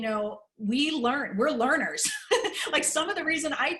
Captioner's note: laughter